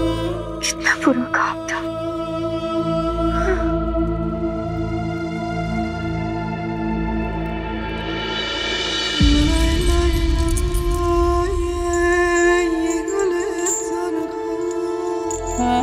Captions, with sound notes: It was a bad dream. [metal clanks]